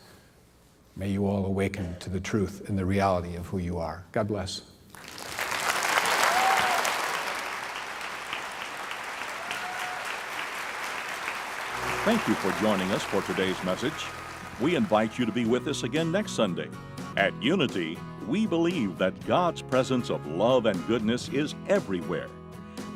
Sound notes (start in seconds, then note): 7.9 applause; 12.3 voice-over